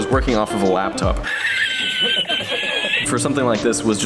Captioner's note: even more death laugh